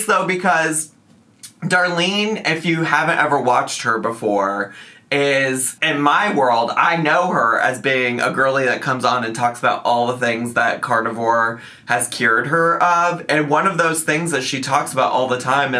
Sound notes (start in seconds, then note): none